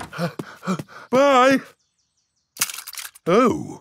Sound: snorts; panting

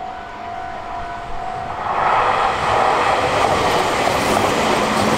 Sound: train passes

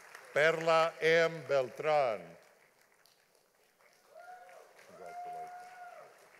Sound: audience applauding

